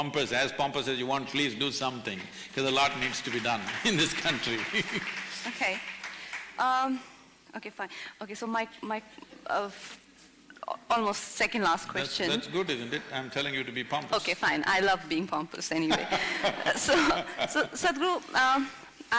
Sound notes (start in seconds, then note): 3.9 laughs; 4.7 applause; 15.8 few laugh; 15.9 Sadhguru Laughs